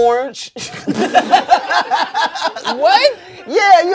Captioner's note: everyone laughs